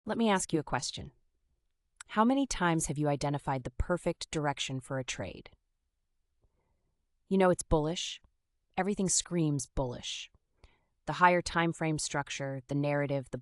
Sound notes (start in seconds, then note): 0.2 sound of a deep breath